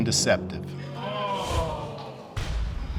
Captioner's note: audience groaning; exhales deeply